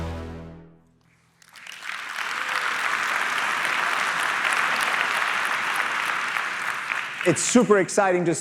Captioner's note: applause